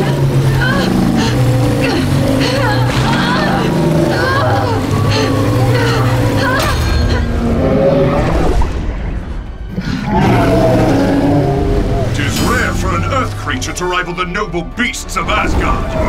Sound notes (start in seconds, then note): 0.0 grunts; 6.6 groans; 6.6 roars